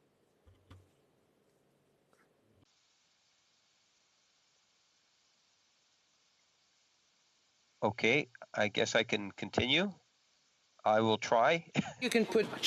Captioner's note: spea king in French